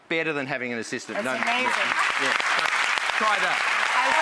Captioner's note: audience applauding